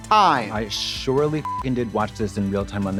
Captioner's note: beep